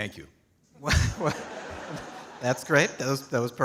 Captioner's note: audience laughing